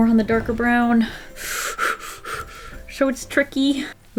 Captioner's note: hyperventilating